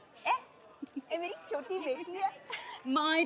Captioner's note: in Punjabi